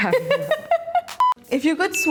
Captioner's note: laughs